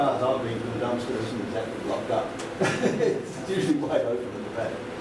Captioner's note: laughter